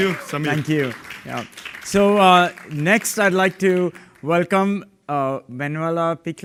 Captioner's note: applause